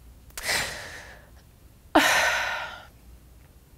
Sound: crying

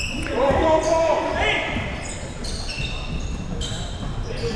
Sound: players yelling

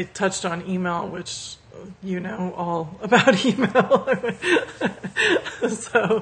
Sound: laughs

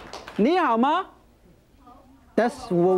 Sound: speaking in foreign language

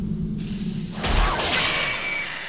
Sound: screeching

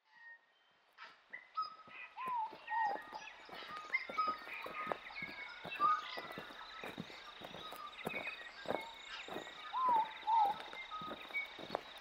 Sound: forest Ambience

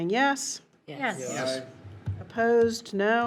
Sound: in Unison

